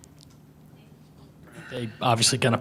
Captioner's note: lady speaks faintly